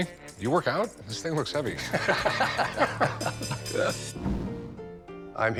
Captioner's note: laughing